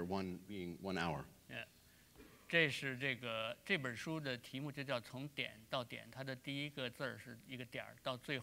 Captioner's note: speaking in Chinese